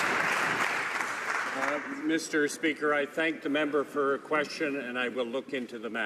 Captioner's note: some Applause